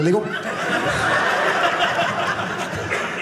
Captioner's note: audience laughing